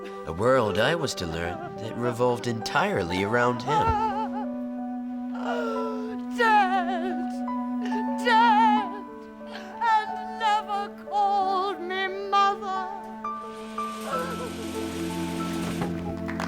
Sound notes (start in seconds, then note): 4.0 weeping; 13.2 weeping